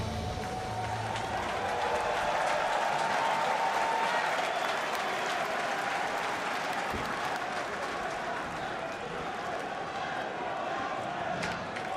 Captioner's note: crowd cheering